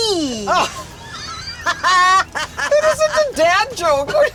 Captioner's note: laughter